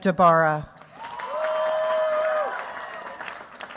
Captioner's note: cheers, applause